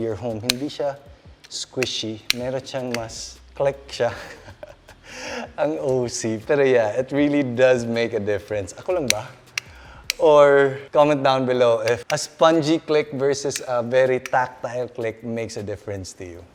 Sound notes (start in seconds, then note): 4.1 giggles